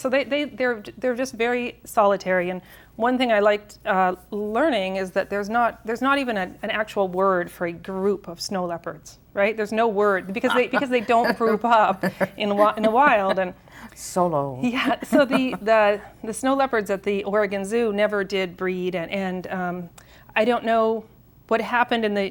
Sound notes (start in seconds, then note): 10.3 chuckles